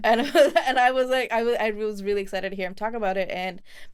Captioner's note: chuckles